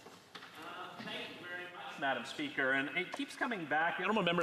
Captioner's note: speaking French